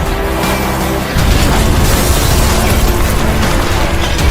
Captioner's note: bomb banging